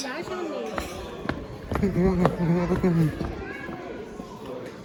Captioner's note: hums